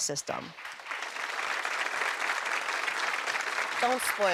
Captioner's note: audience applauds